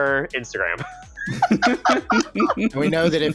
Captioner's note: laughter